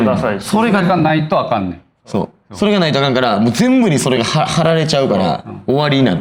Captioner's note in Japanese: 咳払い